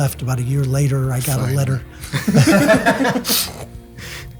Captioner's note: laughs